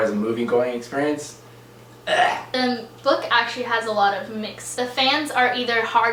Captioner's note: ugh